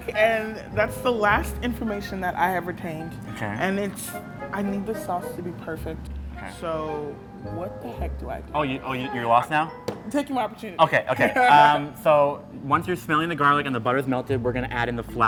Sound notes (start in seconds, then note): 9.8 bangs; 11.1 laughs